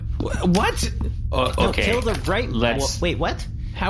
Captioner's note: nervous